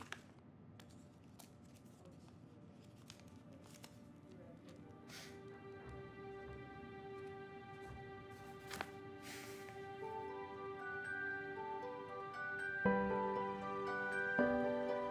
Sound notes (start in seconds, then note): 2.3 people chattering; 8.2 poignant music; 11.8 gentle upbeat music